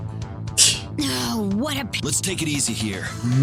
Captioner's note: laughs softly